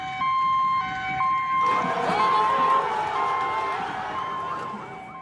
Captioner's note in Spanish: Gritos